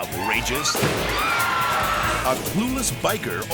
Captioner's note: audience screaming; explosion booms